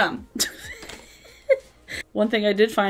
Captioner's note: chuckles